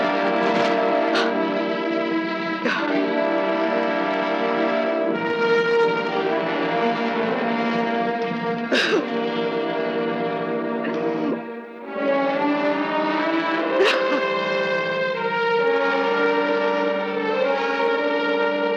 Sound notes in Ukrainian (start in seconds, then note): 8.6 плаче